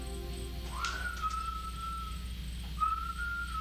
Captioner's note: whistling